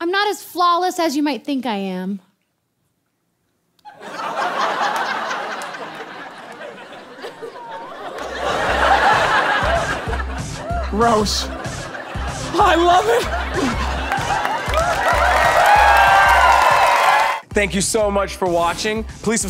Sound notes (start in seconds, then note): 3.8 audience laughs; 14.4 audience cheers